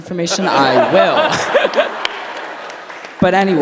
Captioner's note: applause